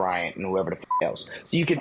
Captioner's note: beep